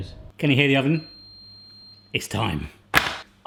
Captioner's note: oven beeping